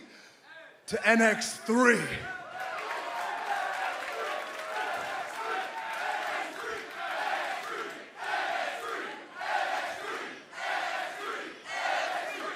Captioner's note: crowd cheering